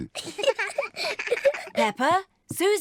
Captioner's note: both giggle